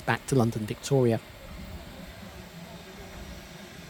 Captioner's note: sound of steam coming from the engine